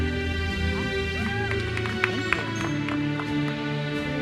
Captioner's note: attendees cheering; uplifting music continues